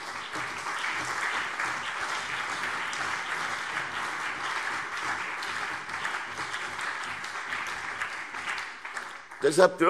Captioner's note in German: Beifall CDU und BÜNDNIS 90/DIE GRÜNEN